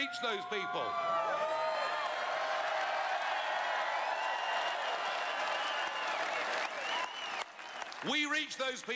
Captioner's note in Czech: Potlesk